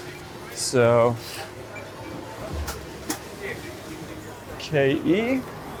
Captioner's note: indistinct background chatter